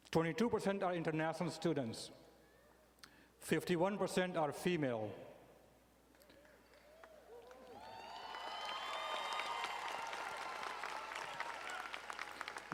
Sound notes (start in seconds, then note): 6.7 audience cheering and applauding